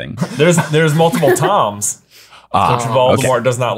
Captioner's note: chuckling